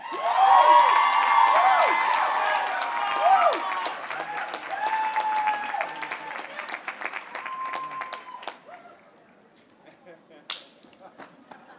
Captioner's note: applause